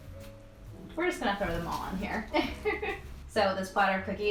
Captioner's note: laughs